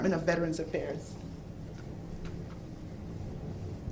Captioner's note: speaking spanish